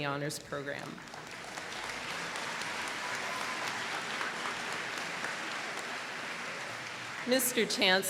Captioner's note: applause